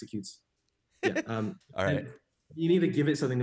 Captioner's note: laughs